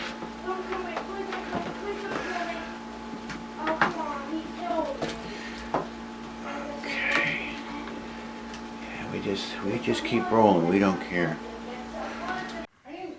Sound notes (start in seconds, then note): 0.6 female voice from the bathroom